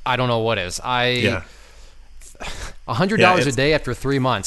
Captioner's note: exasperated sigh